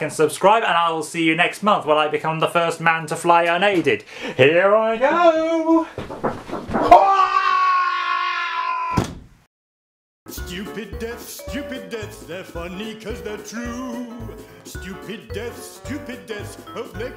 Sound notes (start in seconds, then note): 6.8 screams; 8.9 thud